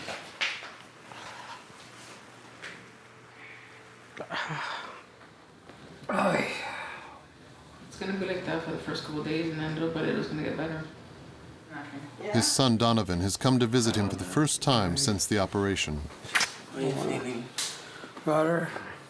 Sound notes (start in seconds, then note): 4.4 groaning